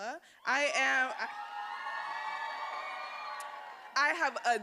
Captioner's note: attendees cheering